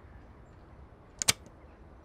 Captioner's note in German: Klicken